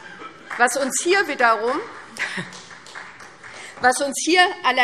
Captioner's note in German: Beifall SPD